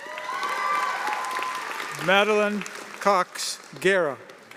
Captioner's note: cheers and applause